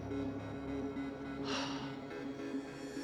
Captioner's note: sighs